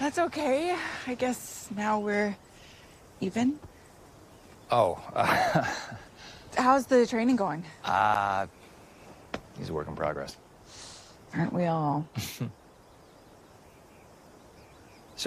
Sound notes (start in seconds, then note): 5.1 laughs